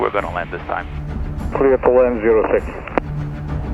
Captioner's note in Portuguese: rádio